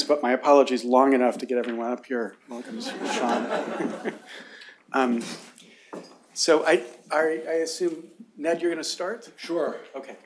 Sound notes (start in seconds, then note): 2.7 laughter